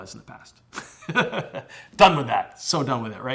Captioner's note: chuckles